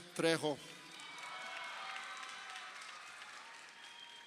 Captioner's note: crowd cheering